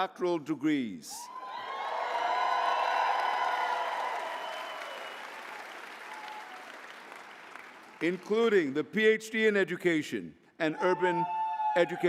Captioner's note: applause